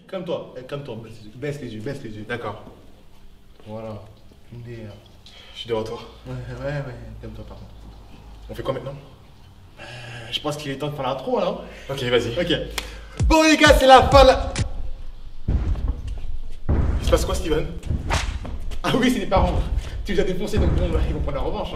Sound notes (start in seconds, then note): 15.1 monstrous footsteps